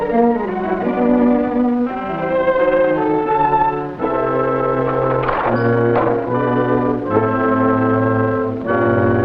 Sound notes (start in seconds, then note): 0.5 dramatic music continues; 5.0 chest opening